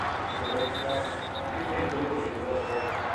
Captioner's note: whistle blows